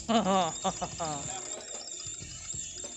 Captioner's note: laughter